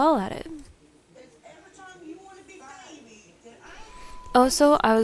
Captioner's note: TV plays in background